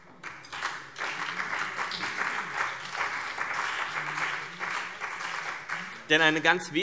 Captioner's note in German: Beifall BÜNDNIS 90/DIE GRÜNEN und vereinzelt CDU